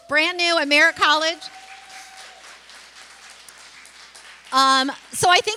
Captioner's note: applause and cheering